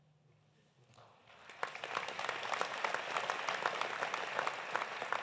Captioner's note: audience applauding